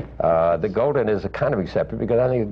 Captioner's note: laughs